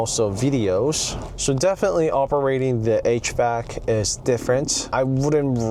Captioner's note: hvac